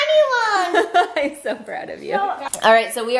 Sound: laughs

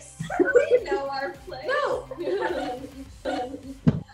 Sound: laughs

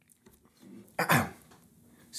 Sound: cough

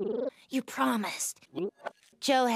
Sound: vomits out egg nog

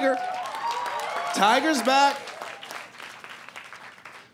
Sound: cheers and applause

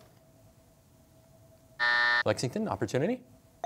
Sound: buzzer

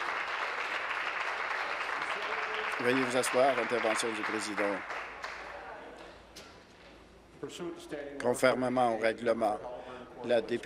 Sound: applause

